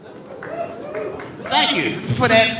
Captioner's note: audience cheering